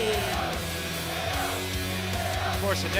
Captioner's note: fans chanting